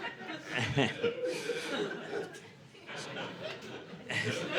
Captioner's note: audience laughing